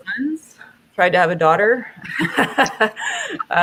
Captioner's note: laughter